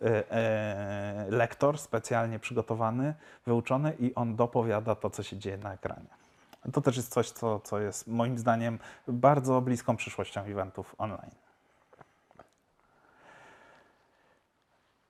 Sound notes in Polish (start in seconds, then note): 13.0 chwila ciszy